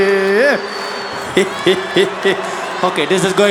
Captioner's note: Zuma laughing